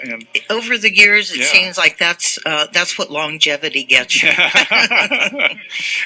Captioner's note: laughter